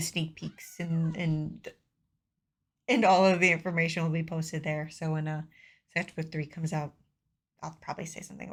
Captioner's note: meow